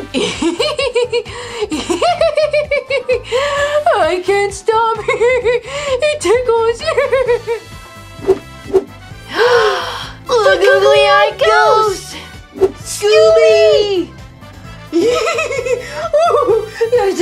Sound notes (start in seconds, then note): 0.3 Scooby laughs; 7.2 Scooby laughs; 9.2 both gasp; 15.0 Scooby laughing